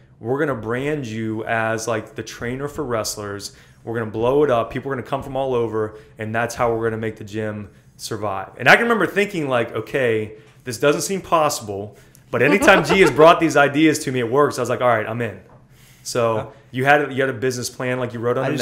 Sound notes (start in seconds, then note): 12.4 laughter